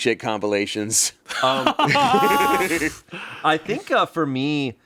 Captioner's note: everyone laughs